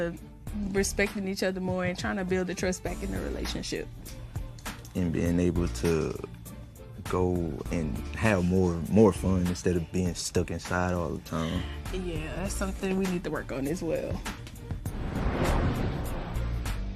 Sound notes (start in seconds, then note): none